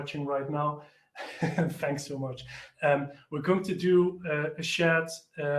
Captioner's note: laughs